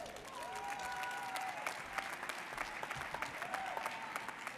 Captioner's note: audience cheers